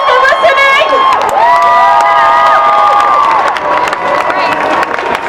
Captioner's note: cheering and applause